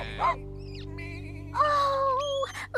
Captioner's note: sheep Bleating